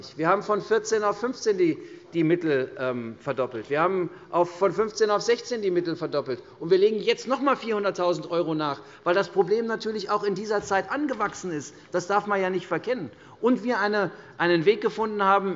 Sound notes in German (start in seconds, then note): none